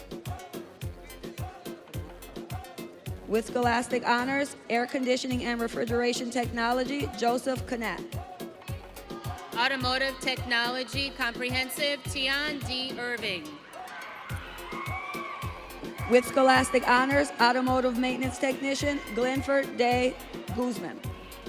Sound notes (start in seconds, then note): 13.6 audience cheering